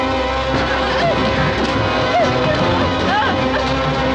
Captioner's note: whimpering